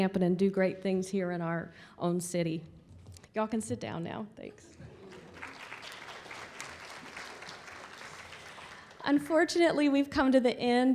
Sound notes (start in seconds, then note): 4.9 applause